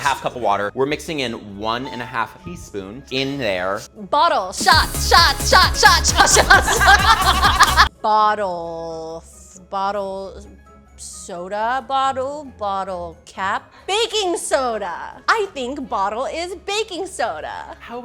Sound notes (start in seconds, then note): 6.7 laughing